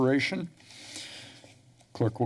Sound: pause

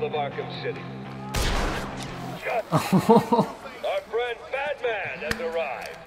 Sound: laughs

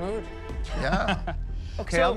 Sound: chuckles

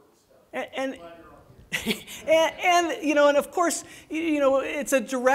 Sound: laughs

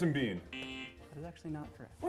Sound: buzzer

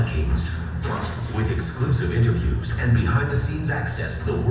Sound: voiceover

